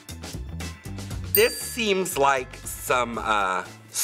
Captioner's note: cash register dings; bell dings